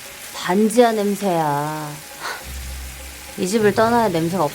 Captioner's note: speaking foreign language